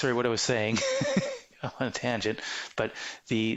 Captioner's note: laughing